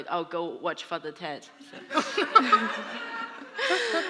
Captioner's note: laughter